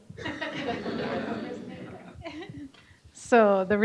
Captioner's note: audience laughing